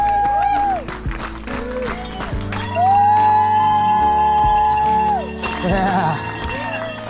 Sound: crowd cheering and applauding

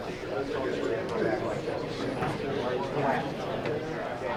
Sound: group chattering

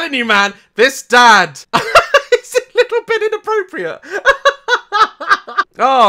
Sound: laughs

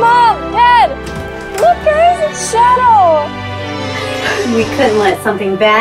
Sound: door opens

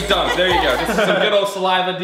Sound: laughter

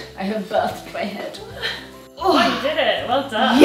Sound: groans

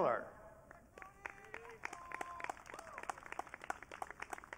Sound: audience cheering

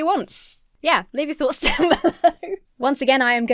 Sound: laughs

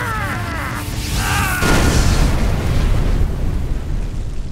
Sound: explosion

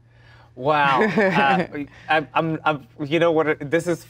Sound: Gal laughs

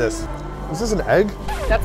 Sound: record scratches

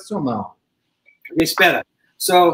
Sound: speaks portuguese

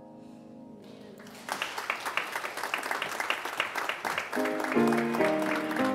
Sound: congregation applauds; soft piano music

